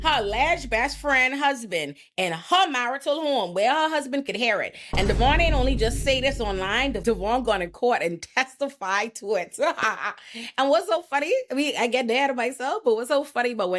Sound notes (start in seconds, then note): 10.2 laughs